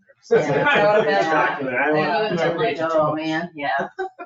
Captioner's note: people chattering